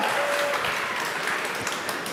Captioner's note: applause